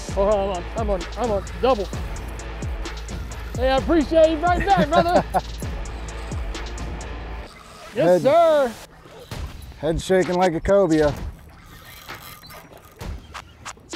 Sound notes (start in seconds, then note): 4.3 laughs